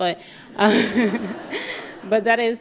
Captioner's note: audience laughing